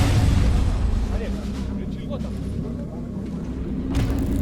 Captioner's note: chattering